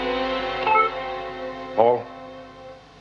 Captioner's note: interfone emite um sinal sonoro